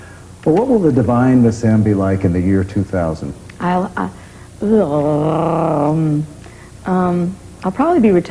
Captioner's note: makes a long rolling-R sound